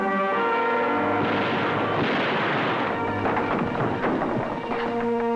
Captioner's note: gunshots